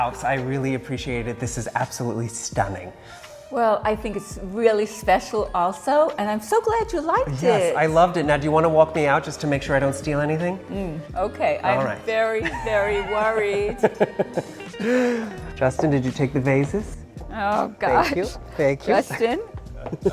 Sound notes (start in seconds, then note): 12.4 laughs; 19.0 all laughing